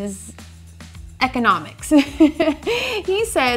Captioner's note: laughing